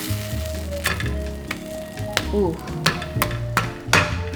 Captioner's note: sizzles